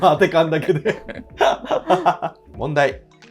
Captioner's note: laughing